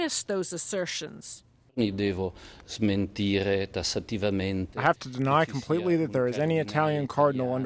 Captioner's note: through translator